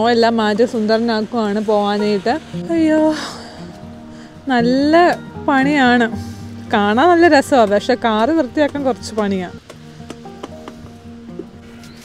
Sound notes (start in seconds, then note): 3.2 sigh